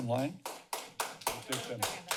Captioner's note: applause